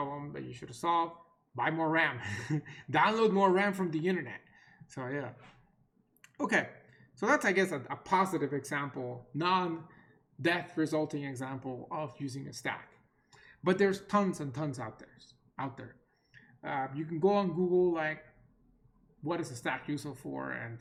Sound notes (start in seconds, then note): 2.2 chuckles